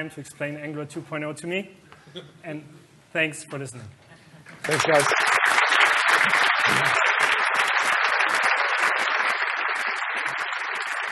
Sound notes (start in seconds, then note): 4.5 applause